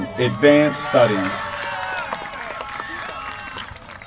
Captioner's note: applause